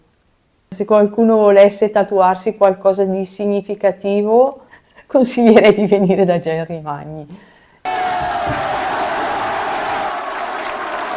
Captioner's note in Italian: Applauso